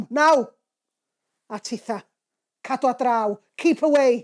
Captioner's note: in Welsh